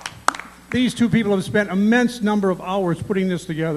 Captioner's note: applause